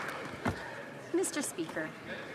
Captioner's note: some Applause